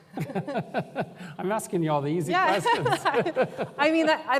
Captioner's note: laughter